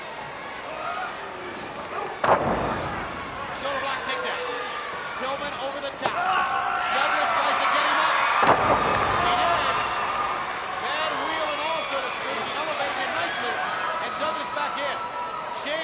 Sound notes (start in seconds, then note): 0.3 body thudding; 0.3 footsteps plodding; 8.3 body thudding